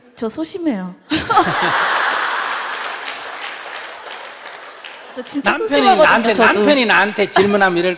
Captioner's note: questioner/Audience Laughter/Applause